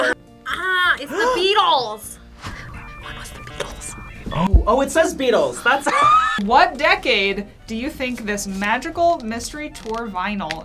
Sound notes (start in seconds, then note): 1.8 gasps; 3.0 whispers; 3.3 modem dialing; 5.7 laughs